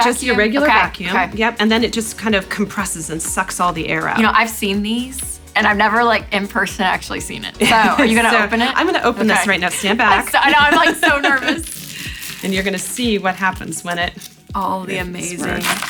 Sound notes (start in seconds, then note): 7.6 laughs